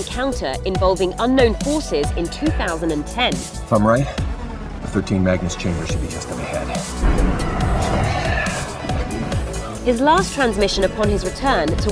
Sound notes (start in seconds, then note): 7.0 alien screeches and loud rumbling